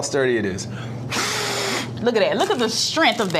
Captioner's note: puffing